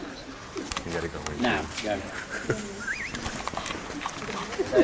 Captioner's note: people Talking & Footsteps